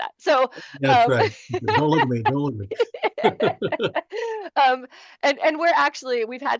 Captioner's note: laughter